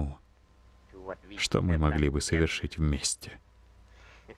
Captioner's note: chuckle